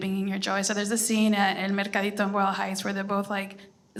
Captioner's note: foreign language